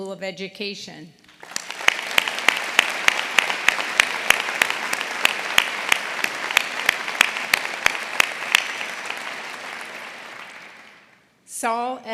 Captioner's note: applause